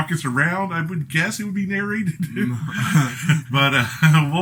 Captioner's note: both chuckling